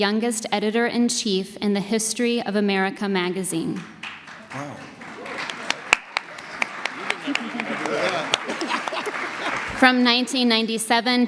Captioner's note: audience applause